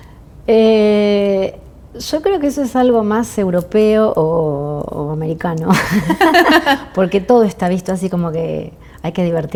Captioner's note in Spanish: risas